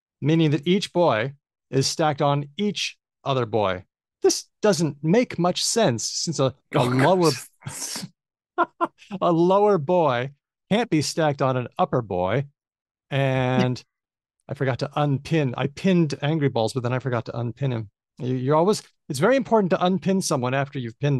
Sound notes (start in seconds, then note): 8.6 laughs